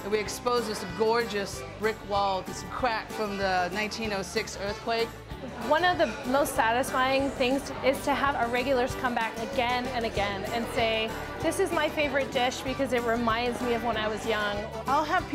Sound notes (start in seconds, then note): none